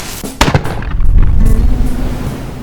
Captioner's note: gunpowder ignites; gunshot